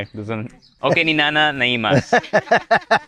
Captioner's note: speaks in Ilocano; laughs